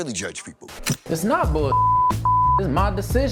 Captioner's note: beep